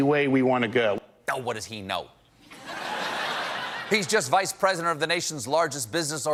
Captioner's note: laughter